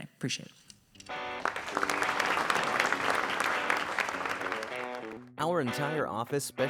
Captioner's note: audience applauds; upbeat music